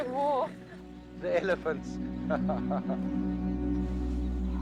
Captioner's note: laughs